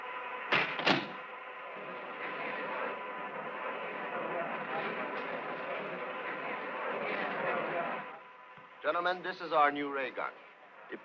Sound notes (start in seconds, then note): 2.8 all chattering